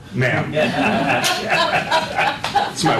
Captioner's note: laughter